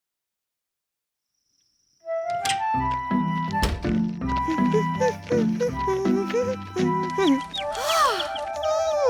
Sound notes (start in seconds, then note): 4.4 humming; 6.8 chirping